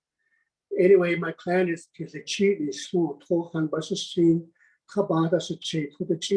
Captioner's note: speaking foreign language